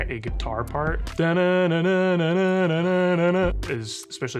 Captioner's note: vocally imitates guitar riff